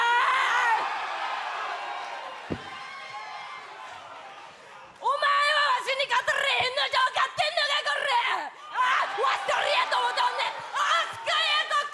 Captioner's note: cheers and applause; speaking foreign language